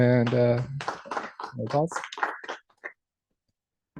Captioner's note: applause